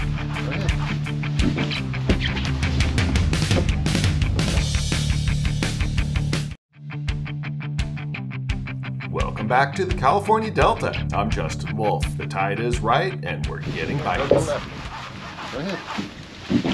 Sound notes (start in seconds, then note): 5.0 shuffling